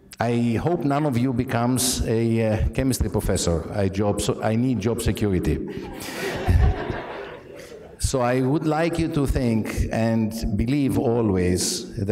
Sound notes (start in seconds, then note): 5.6 laughter